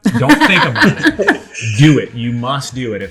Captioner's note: laugher